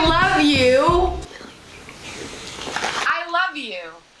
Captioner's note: whispers very softly